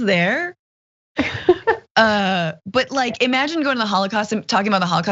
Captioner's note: laugh